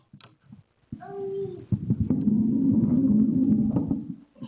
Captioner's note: child brabbles